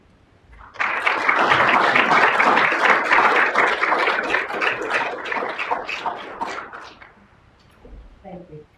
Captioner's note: applause